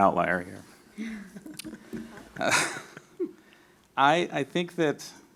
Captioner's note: laughing